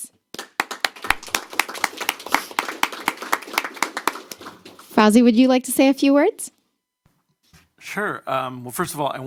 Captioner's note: applause